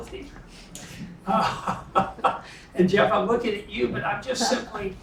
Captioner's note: laugh